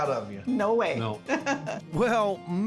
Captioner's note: laughing